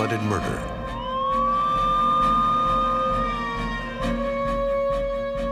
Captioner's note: sirens